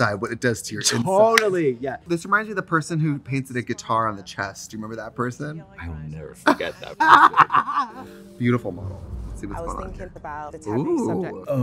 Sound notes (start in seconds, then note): 6.4 Trixie laughs